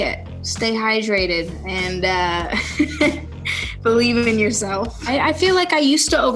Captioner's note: laughs